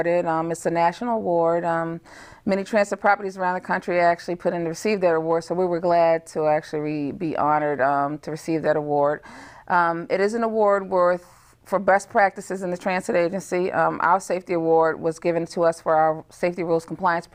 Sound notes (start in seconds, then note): none